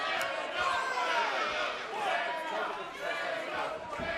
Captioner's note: fans chanting